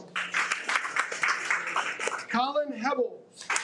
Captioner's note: audience applauding